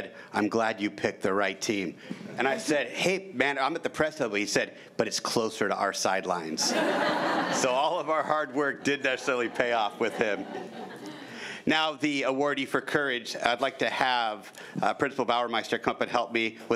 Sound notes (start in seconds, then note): 6.6 crowd giggling